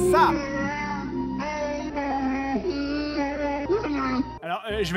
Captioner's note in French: retour des cris de Wookies